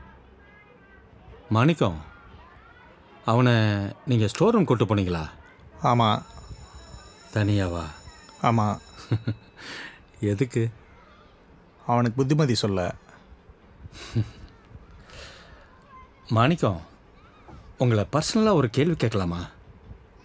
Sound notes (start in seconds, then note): 5.8 school Bell Rings; 8.8 giggles